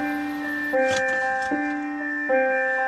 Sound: piano music playing; thump; piano music playing

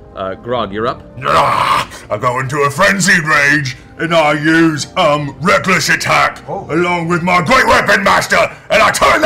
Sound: growls

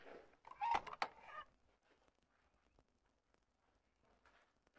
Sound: door creaking

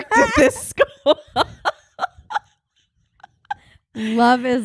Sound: laughing

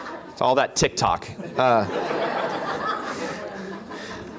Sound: laughter

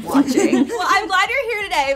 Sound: laughter

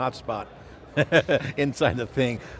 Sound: laughs

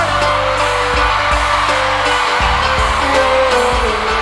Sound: crowd cheers

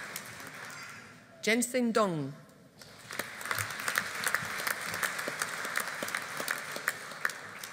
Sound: audience applauding

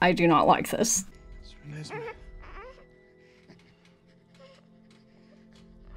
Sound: baby cooing; dramatic music

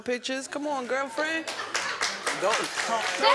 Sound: audience members laugh and clap

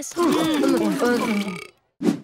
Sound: belching

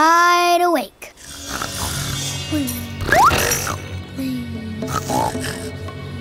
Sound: snoring

